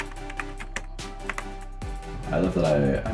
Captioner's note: typing sound